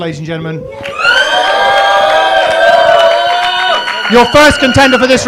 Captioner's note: cheers and applause